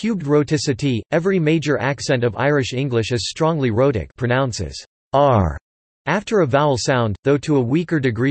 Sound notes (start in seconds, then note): 4.7 pronounces "r" after a vowel sound